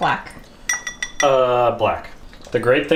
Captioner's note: bowl clinking